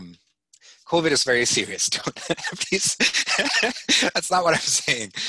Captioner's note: laughing